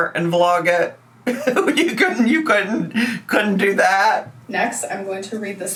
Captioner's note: laughs